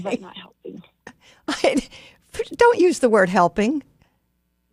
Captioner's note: laughs